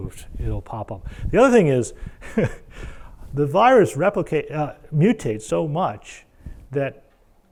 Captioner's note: laugh